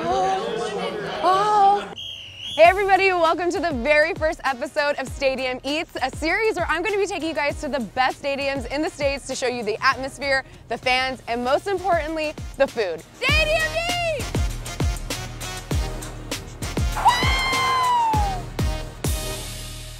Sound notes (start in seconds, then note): 1.9 whistle blows; 15.2 upbeat music; 17.0 cheers